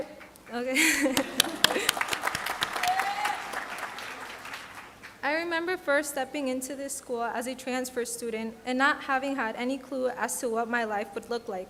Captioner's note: applause